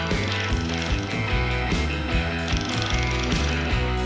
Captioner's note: reel flickering